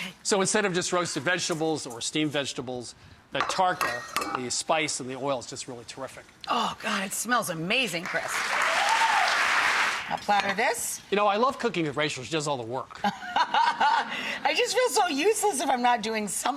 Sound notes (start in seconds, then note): 8.0 applause and cheering; 13.0 laughter